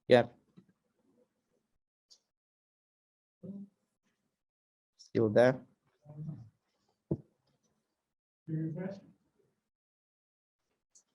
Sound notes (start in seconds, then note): 6.5 faintly speaking